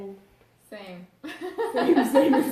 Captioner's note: laughs